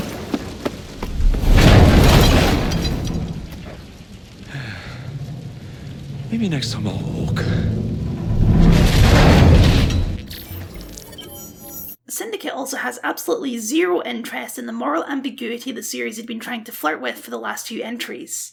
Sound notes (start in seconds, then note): 1.0 crash; 4.4 sigh; 8.4 crash